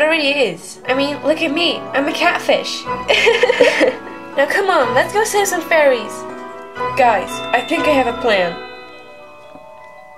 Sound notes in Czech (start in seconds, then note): 3.1 Smích